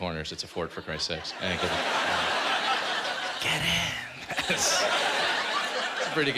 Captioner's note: whispering